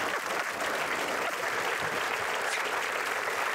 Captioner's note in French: Applaudissements